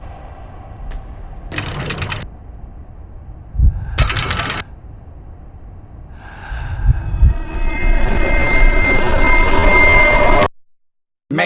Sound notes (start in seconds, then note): 1.5 chains clanking; 3.6 inhaling; 4.0 chains clanking; 6.2 gasping; 7.4 frequency pitch ringing; 7.7 audio distorting